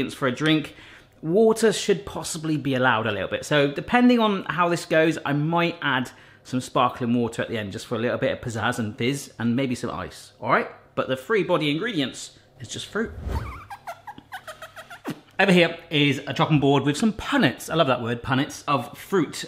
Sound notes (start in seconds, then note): 13.3 cutting board squeaks